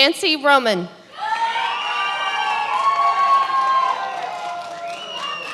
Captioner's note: many applauding